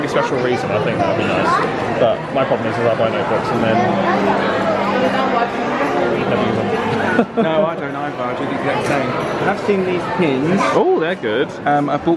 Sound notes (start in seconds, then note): 6.8 laughs